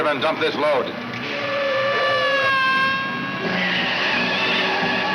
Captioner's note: tires screech